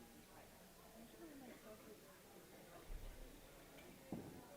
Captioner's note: chatter